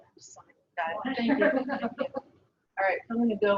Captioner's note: laughs